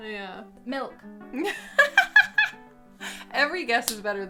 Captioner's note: laughing